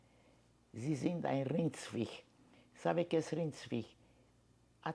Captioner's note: german